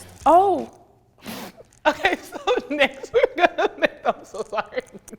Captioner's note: laughs